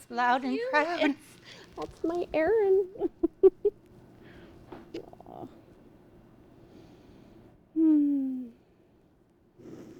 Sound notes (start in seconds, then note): 3.0 both laugh